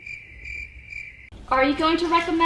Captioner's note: crickets chirping